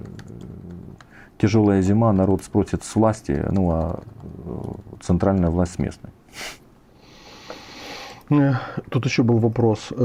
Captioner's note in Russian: фыркает